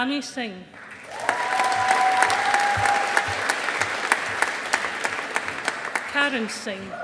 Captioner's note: audience applauding